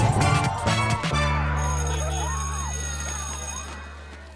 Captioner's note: bell rings